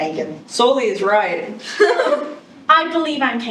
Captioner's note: giggles